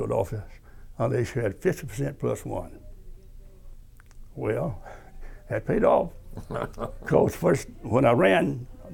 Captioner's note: laughter